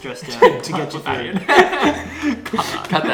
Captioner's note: laughs